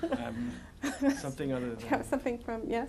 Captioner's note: laughter